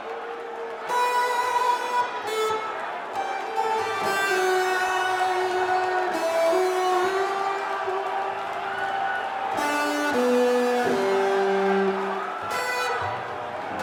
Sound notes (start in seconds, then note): 0.2 crowd chatter; 2.3 crowd cheering